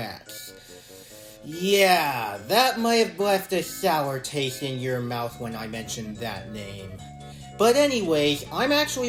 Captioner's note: inhales